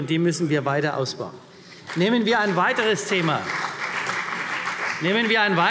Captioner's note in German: Beifall CDU